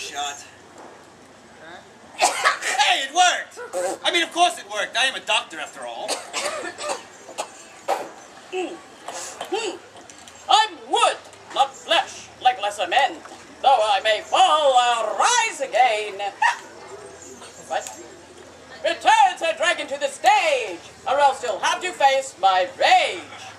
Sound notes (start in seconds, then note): 15.5 hiccup